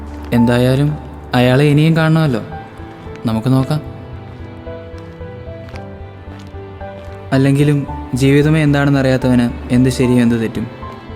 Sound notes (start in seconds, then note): none